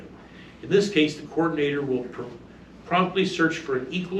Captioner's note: stammers